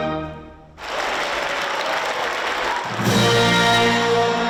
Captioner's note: audience clapping; dramatic music